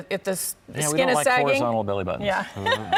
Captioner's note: laughs